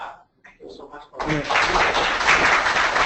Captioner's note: applause